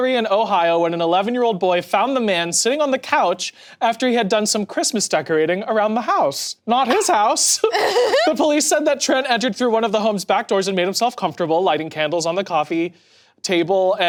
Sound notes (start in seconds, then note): 6.8 people laughing